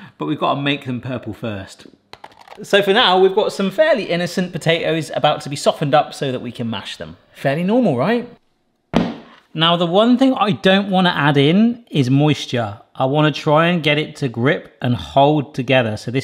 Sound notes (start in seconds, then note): 2.0 french fry thuds; 8.9 pan thuds